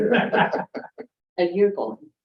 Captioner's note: all chuckling